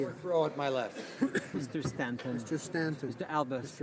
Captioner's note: speaking in french